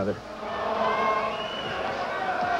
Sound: crowd cheering

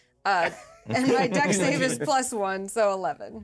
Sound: speaker laughs

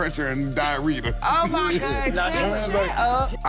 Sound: laughing

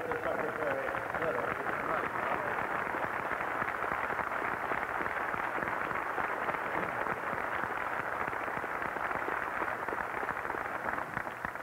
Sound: applause

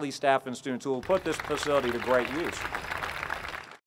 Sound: applause

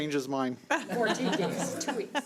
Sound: audience laughing

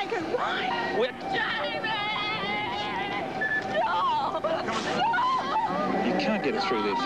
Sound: crying

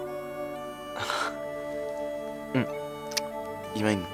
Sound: chuckles

